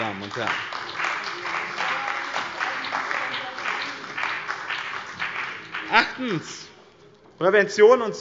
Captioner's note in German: Beifall bei dem BÜNDNIS 90/DIE GRÜNEN und der CDU